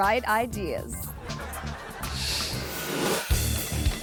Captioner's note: audience laughs; image whooshes; upbeat music; teen laughing